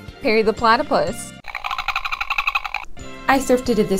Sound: whatever platypus noises sound

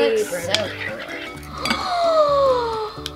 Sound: gasps

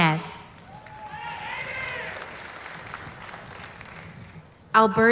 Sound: applause

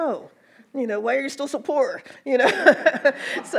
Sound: laughs; audience laughs

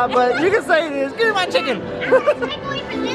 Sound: laughs

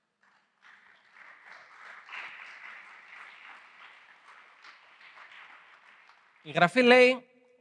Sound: applause

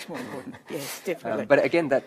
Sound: chuckling

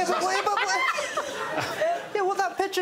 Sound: indistinct chatter

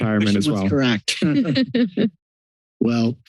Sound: laughter

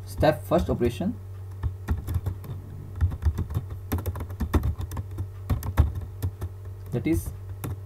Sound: typing Sound

